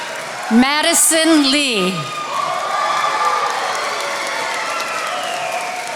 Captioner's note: attendees applauding